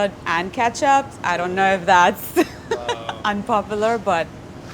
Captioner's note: laughs